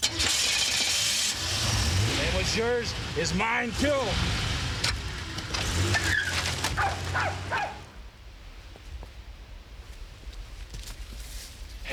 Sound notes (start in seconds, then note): 0.2 car starts; 6.7 dog barks